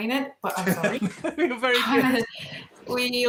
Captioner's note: laughing